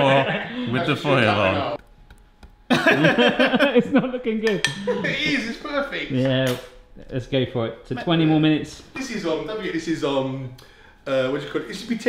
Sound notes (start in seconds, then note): 2.7 all laugh